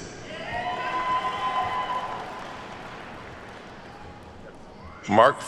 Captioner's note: attendees cheer and clap